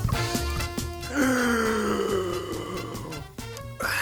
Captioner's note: drunk gasping